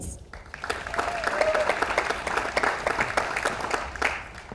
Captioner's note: audience applauds